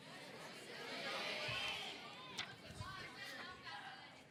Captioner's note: audience chattering